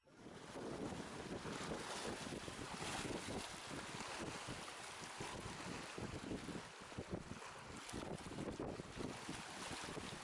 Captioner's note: water/ocean/sea sounds